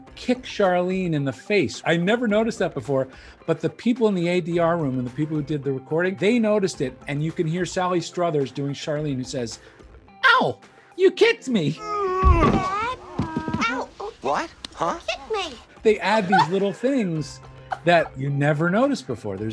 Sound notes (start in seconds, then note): 11.8 groans